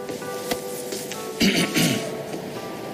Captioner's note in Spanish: carraspea